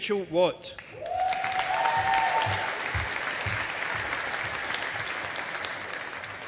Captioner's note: audience applauding